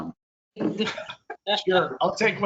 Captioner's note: laughter